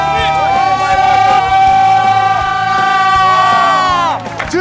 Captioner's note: screaming